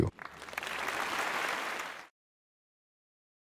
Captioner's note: applause